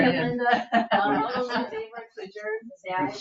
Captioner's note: people chuckling